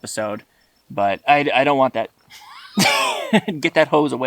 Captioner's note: both laughing